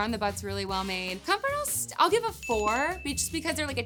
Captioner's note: bell ringing